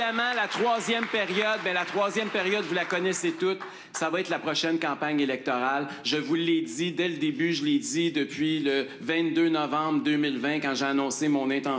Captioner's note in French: applaudissements